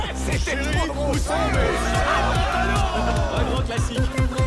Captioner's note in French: charivari enthousiasme